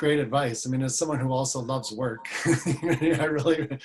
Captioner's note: laughs